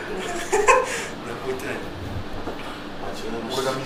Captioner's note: laughs; laughs